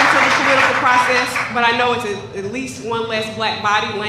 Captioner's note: applause